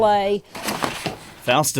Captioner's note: paper unfurls